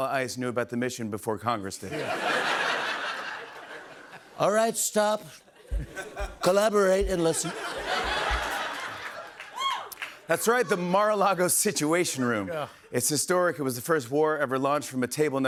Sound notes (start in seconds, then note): 1.8 laughter; 4.3 Trump voice; 7.0 laughter; 10.2 normal voice